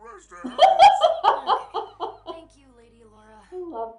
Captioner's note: laughter